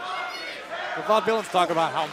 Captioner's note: fans chanting